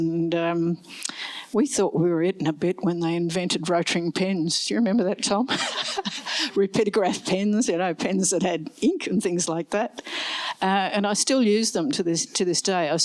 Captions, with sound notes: And we thought we were it and a bit when they invented rOtring pens. Do you remember that, Tom? [LAUGHS] Rapidograph pens, pens that had ink and things like that. And I still use them to this day.